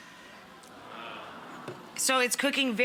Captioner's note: audience exclaiming